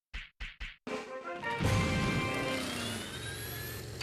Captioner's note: engines revving